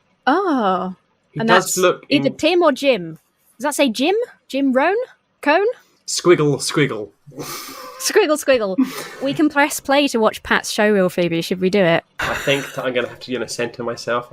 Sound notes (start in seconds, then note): 8.7 chuckles